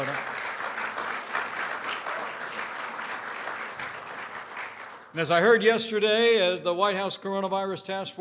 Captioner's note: applause